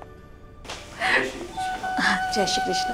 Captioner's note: Padimini inhales